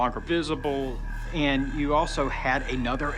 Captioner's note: alarm blaring